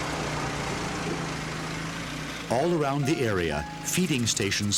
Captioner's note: van engine roaring